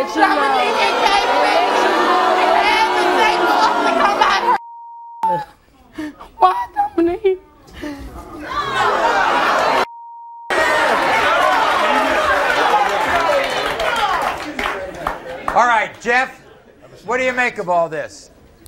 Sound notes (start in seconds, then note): 0.0 audience booing; 10.5 audience cheering